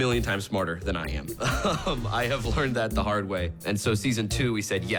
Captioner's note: chuckles